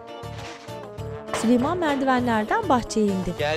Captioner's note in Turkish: Kapı vurulma sesi